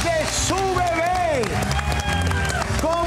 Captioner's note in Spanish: Aplausos